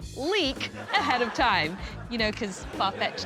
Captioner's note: canned laughter